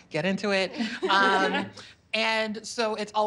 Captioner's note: laughter